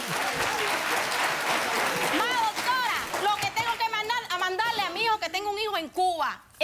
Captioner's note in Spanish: aplausos